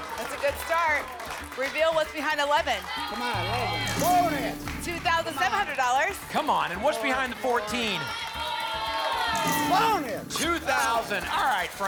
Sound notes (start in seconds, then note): 8.3 cheering